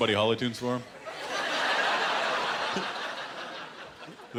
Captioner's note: laughter